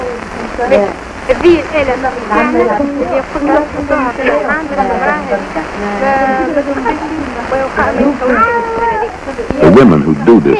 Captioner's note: visiting nurse explains family planning options, speaking local language